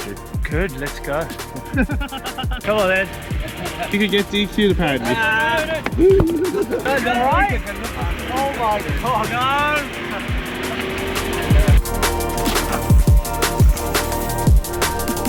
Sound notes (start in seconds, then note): 4.7 people chattering; 10.4 engine revving; 12.4 upbeat music